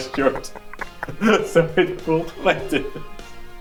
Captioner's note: snickering